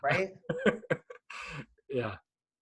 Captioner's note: laughing